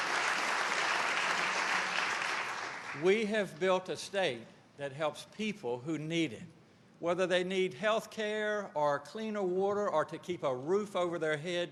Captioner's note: applause